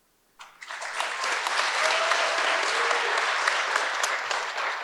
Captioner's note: audience applauds